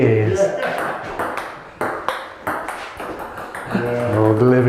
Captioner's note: ball hitting table